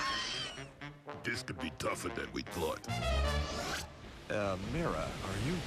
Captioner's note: coughs